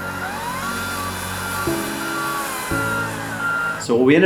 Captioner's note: machine whirring